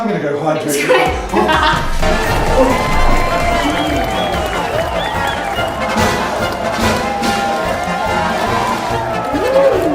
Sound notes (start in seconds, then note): 2.1 crowd applauding; 5.4 carnival music